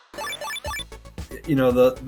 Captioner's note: digital bleeping